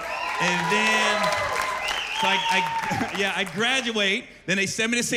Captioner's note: cheers and applause